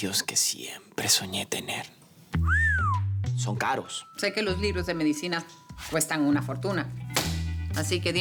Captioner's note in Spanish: Silbidos